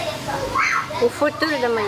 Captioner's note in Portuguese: grito de criança